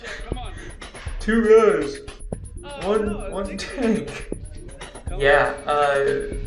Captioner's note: imitating Simon